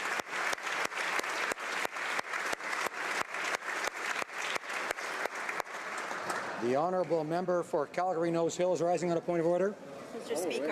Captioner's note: applause